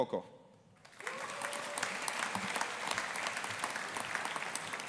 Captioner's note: audience applauding